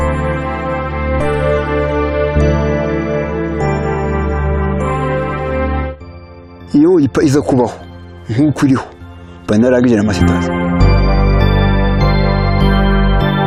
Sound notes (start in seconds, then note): 7.0 speaking in Kinyarwanda; 10.7 synth music